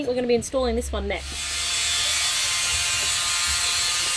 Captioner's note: drilling